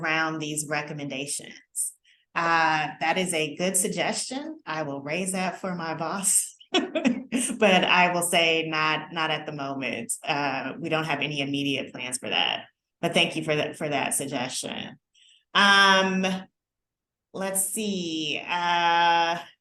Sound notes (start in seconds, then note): 6.7 laughter